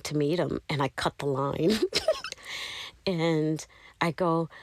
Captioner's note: laughter